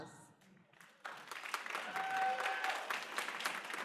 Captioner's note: applause